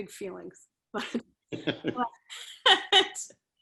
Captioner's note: laughter